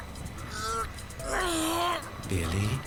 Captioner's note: struggling grunts